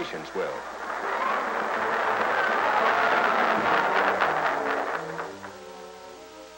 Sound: crowd cheering, applause

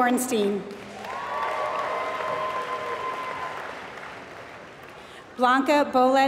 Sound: applause

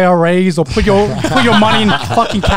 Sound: all laugh

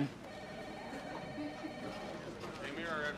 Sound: chatter

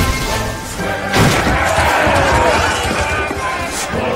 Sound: pirates shouting; thudding

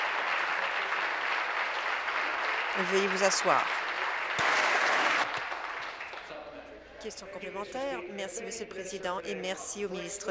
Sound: applause

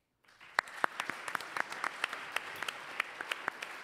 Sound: audience applauds

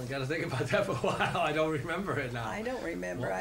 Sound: laughs

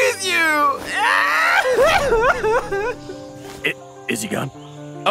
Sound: king crying

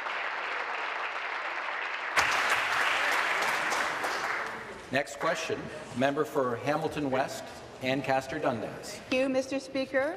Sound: applause

